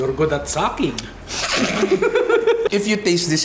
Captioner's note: slurps; laughs